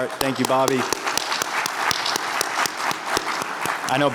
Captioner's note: everyone applauding